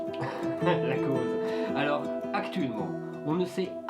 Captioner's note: laughing